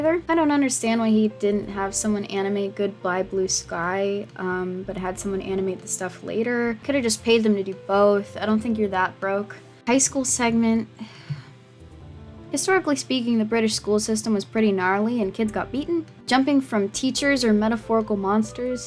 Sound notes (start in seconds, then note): 11.0 sighs